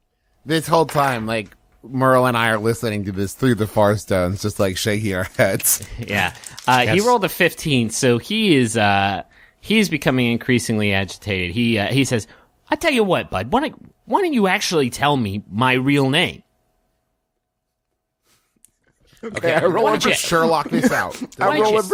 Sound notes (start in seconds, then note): 5.2 laughs; 18.8 nervous laughter